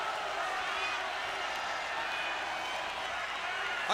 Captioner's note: crowd booing